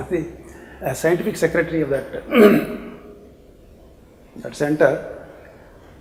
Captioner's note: clears throat